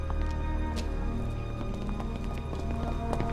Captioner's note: running footsteps